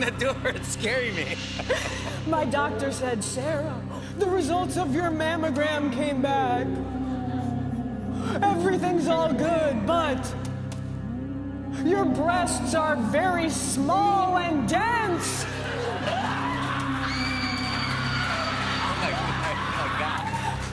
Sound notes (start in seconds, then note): 6.8 ghost moaning; 15.4 women screaming; 20.5 ghost moaning